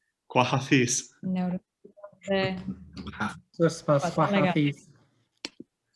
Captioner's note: speaks in a foreign language